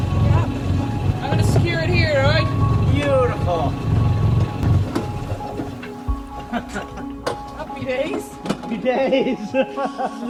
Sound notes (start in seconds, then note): 4.6 engine is shut off; 8.6 laughs